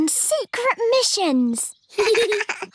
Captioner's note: both laugh